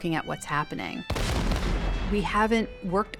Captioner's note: gunfire popping